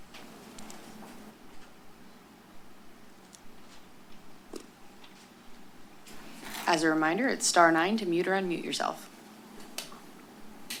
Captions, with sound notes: [pause] As a reminder, it's star nine to mute or unmute yourself.